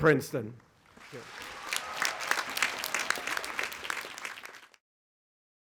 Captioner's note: audience applauding